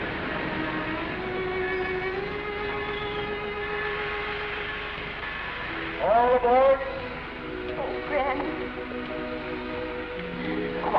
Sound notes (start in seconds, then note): 0.0 gentle music; 0.7 bell tolling; 8.6 gentle music